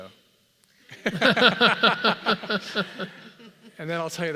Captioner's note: laugh